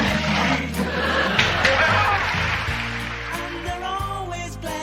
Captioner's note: audience laughing; slow music